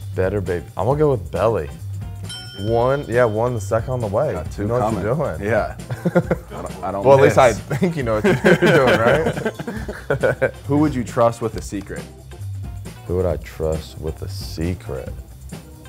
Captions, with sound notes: - Better baby, I'm gonna go with Belli. (bell dinging) One, you got one, the second on the way. - Got two coming. - You know what you're doing. - Yeah. (man laughing) - Well, at least I think you know what you're doing, right? (men laughing) - Who would you trust with a secret? - Who would I trust with a secret?